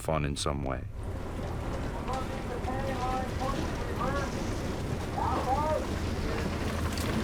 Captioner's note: shouting